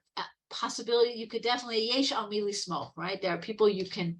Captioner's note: speaking Hebrew